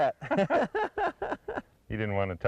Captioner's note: laughter